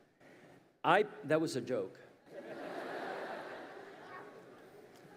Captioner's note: audience laughs